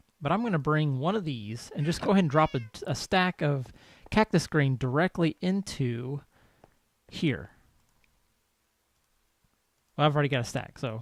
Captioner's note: cat meows